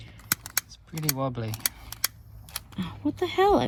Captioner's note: shouts at lighter; clicks lighter several times again